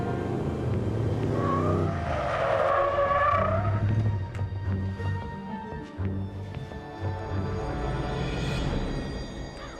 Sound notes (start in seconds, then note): 0.0 tires screech